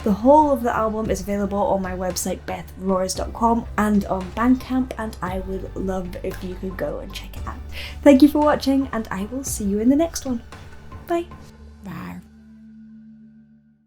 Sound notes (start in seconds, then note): 12.0 dinosaur roars